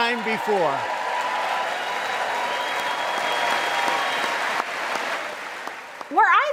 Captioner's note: cheers and applause